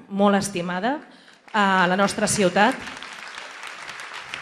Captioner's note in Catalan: aplaudiments